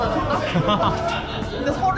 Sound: laughter of sympathy

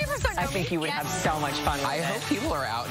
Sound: laughter

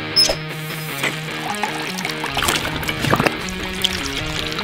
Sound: upbeat rock music; water bubbles

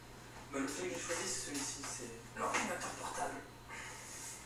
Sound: French language

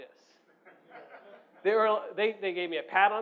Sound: audience laughs

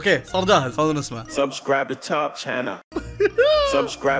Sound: laughs

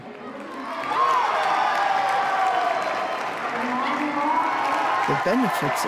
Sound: crowd cheering and clapping

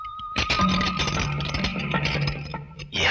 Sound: handcuffs Jiggle

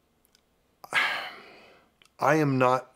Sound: sighs

